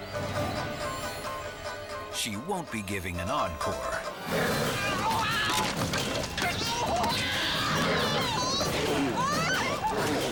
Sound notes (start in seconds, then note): 0.3 ukulele music; 4.1 bear growls; 4.2 yelps; 7.1 screaming